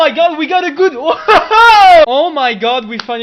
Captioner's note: laughs of joy and surprise